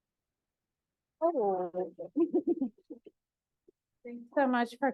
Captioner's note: laughs